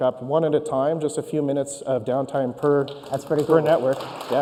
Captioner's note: applause